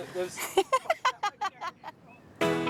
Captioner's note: laughs